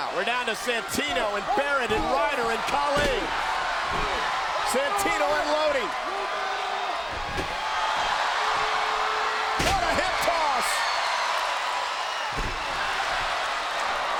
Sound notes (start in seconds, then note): 6.4 applause